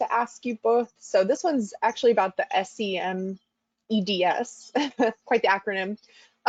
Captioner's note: chuckles